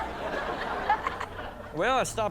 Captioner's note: audience laughs